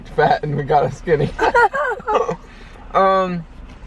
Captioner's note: chuckling